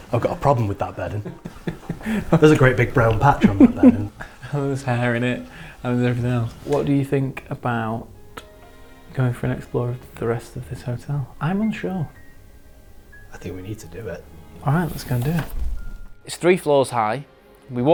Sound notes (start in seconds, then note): 1.1 laughing